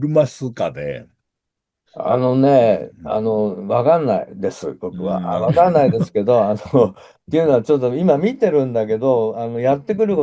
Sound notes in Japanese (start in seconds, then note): 7.6 笑い